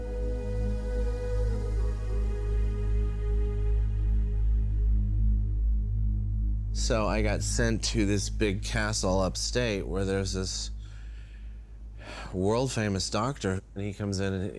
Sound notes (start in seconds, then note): none